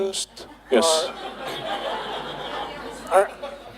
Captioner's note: laughter